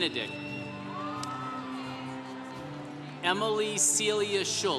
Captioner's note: congregation cheering